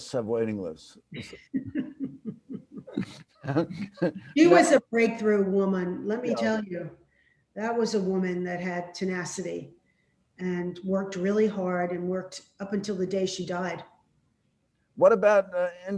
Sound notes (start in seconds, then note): 1.1 laughs; 3.8 also laughs